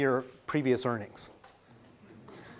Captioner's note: laughing